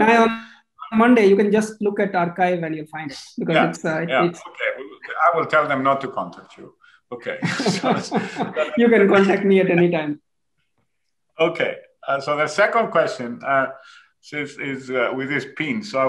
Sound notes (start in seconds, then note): 7.1 laughs